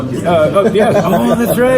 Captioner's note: laughs